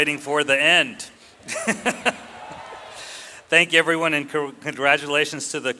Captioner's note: laughs